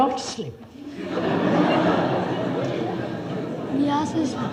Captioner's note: laughter